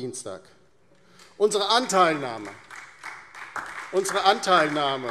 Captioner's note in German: Beifall DIE LINKE und SPD